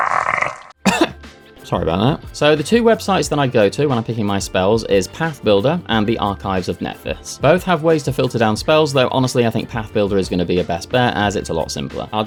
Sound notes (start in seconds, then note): 0.8 cough